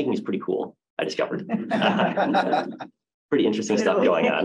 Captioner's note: laughter